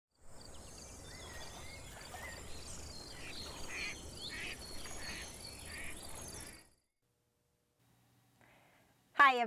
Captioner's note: bird sounds